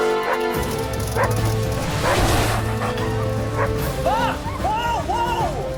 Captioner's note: perilous music; dogs barking